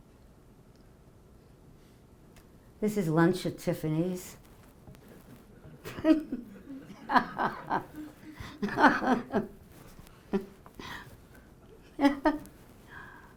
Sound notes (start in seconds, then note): 5.6 audience laughing; 5.8 laughing